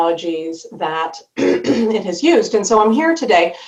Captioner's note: clearing throat